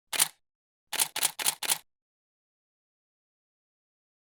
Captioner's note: typewriter clicking